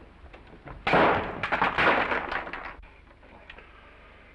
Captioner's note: door slams; glass shattering